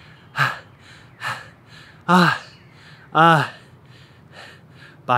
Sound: heavy breathing

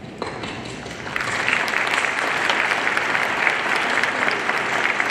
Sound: audience applauding

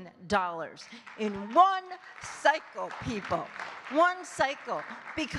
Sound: audience clapping

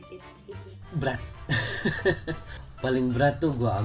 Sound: laughing

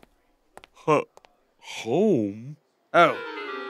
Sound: stutters

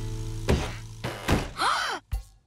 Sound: gasping

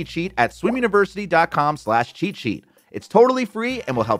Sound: graphics popping; soft pleasant music

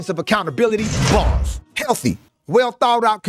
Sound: bars slamming

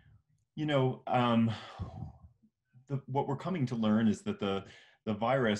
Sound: sighs

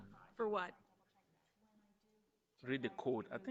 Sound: group chattering

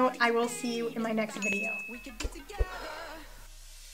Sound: bell dinging

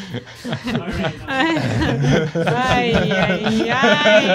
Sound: laughter

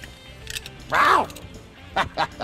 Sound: laughs

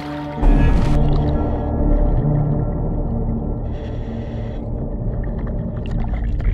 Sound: oxygen tank whooshing

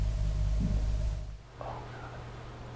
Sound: thud

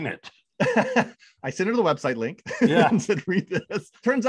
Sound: laughs

